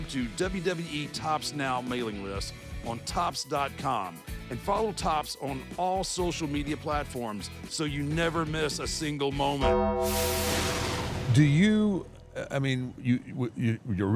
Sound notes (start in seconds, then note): 9.6 bell tolls